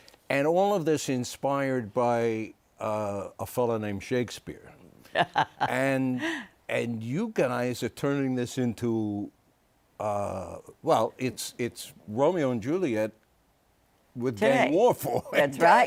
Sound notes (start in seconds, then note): 5.1 laughs